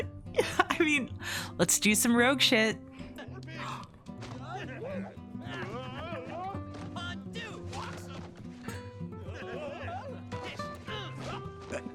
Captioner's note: gasp